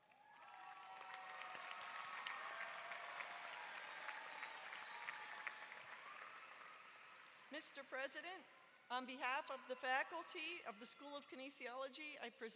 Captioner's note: applause